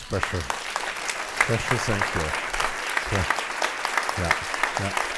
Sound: audience applauds

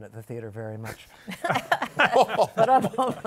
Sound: laughter

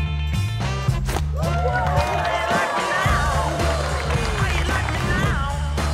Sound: cheering

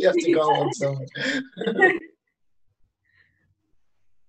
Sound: group laughing

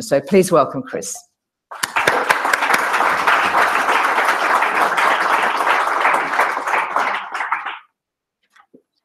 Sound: applause

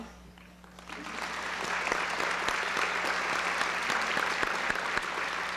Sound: applause

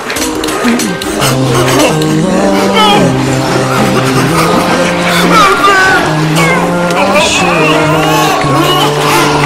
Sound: crying

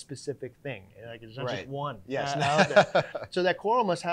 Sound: laughs

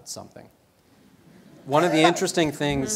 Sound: laugh

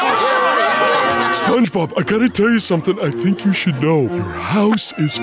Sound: laughter

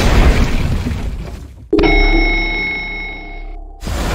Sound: elevator ding

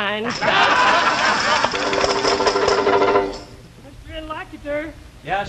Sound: laughing and tambourines jingling

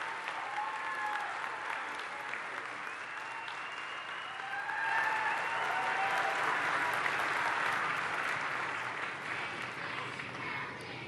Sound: cheers and applause

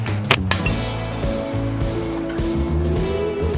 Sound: thwack

